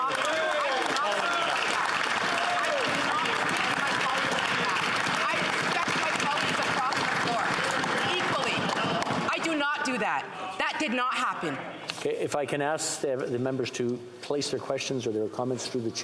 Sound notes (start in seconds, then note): 4.9 some Applause